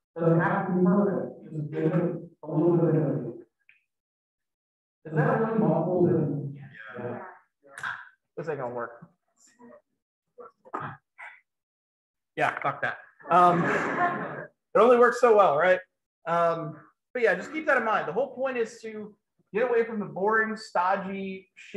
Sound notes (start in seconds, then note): 13.3 laughter